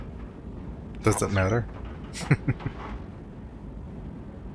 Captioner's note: chuckling